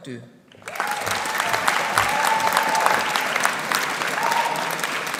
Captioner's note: audience applauding